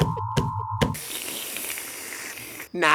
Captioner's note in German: Schlürfen